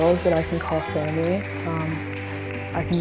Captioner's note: teammates clapping